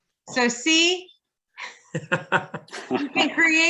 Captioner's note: laughs